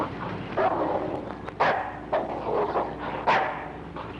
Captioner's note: dog barking